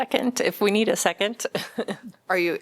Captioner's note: laughter